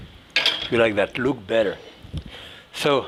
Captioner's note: pan clinking